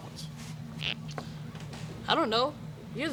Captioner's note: squeak